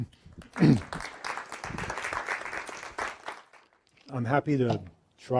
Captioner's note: applause